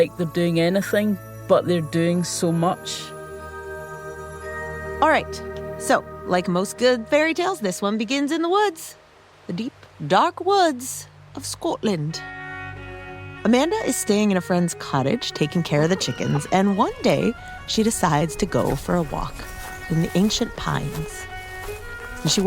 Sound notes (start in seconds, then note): 15.8 A chicken murmurs a chicken hello; 21.0 more footsteps